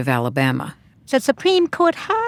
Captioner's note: soundbite of archived recording